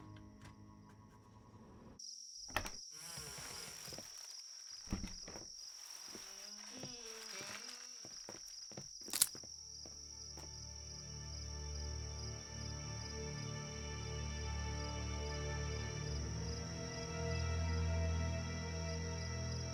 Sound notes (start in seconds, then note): 8.6 twigs breaking